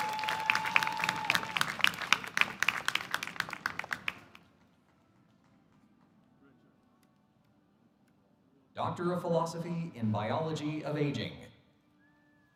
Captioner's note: applause